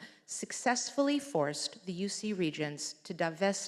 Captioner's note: none